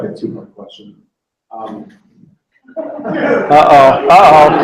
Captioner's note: laughter